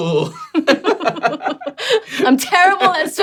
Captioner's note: both laughing